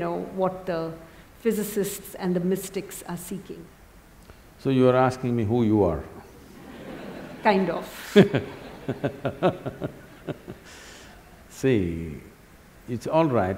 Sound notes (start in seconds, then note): 6.5 laughter; 6.5 laughs